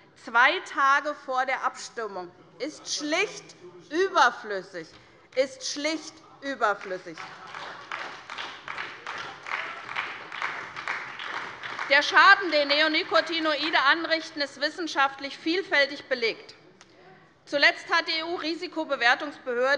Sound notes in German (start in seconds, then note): 7.1 Beifall bei der SPD - Lachen bei dem BÜNDNIS 90/DIE GRÜNEN